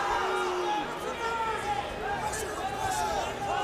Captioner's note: fans yelling